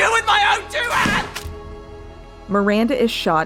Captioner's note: gunshot